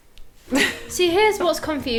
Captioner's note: laughing